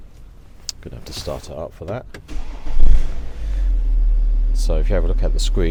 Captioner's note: car starts